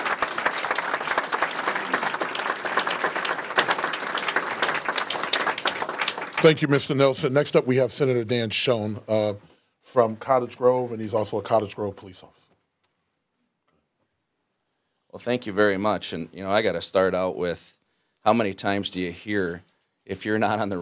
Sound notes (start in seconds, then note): 3.7 applause